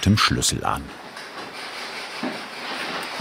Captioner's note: scraping noise